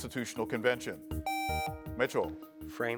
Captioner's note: buzzer beeps